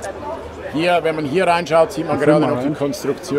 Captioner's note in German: lachen